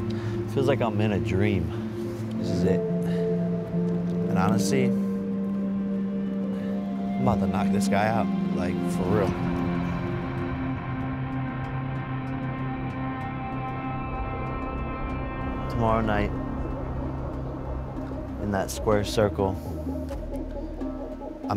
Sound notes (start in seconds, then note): 9.4 breathing deeply